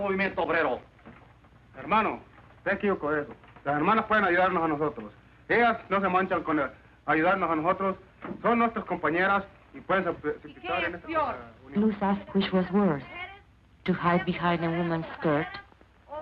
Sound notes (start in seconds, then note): 1.7 man speaking Spanish; 10.3 woman speaks Spanish